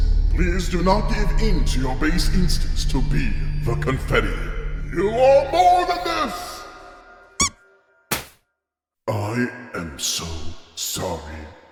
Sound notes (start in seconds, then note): 7.3 squeak; 8.1 pop